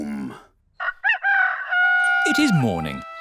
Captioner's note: rooster crowing